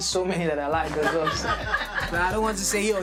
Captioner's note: laughter